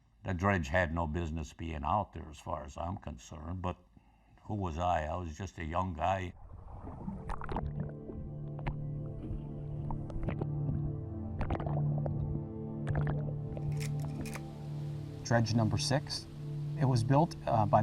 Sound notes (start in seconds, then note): 7.2 somber music; 8.1 water bubbling